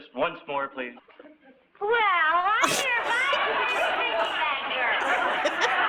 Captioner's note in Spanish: Lucy, balbuceando